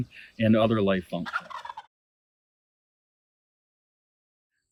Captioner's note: turkey gobbling